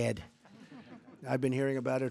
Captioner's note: laughter